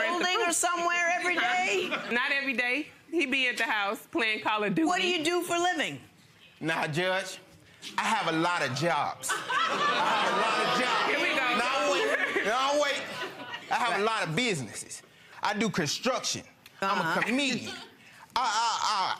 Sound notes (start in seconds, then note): 9.3 audience guffawing